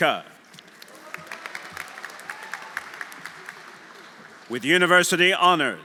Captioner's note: audience applauding; audience cheering